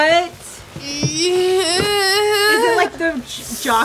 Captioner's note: grunting